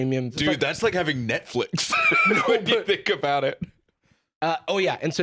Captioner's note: laughs